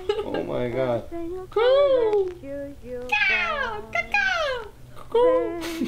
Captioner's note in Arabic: أصوات الطيور السخيفة